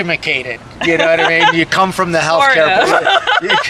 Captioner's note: laughing